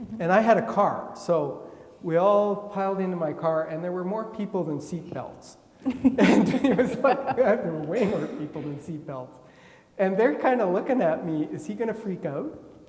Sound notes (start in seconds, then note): 5.8 laughing; 5.9 attendee coughing